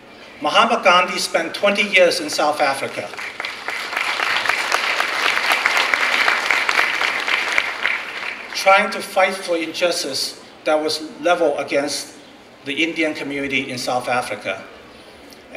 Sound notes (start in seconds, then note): 2.3 clapping